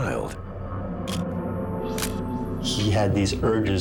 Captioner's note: camera shutter click